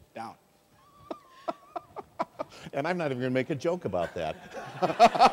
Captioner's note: laughs